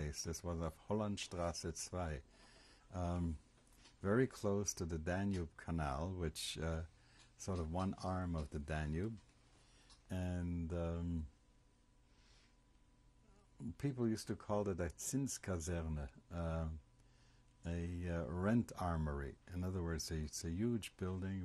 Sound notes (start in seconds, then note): 1.2 german; 10.4 pauses for 3 seconds; 15.0 german